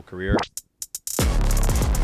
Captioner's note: logo blips; energetic music